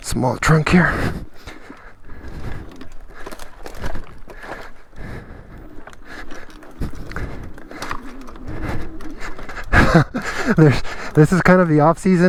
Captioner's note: guffaw